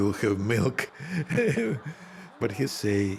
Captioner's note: chuckling